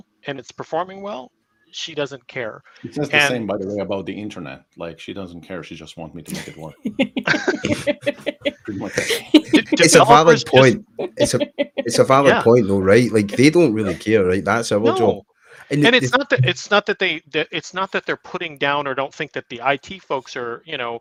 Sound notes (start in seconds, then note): 6.2 laughs